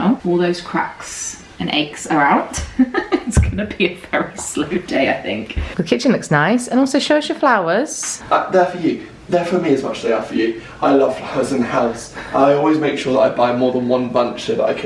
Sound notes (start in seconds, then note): 2.6 person laughing